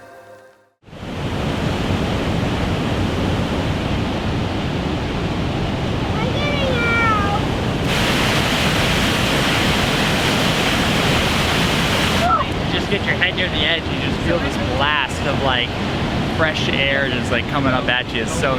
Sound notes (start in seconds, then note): 1.4 water rushing rapidly; 8.2 water rushing rapidly continues